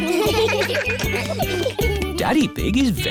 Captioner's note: steel band; laughter